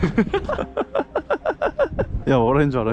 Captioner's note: continuous laughter